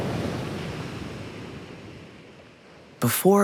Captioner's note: waves surging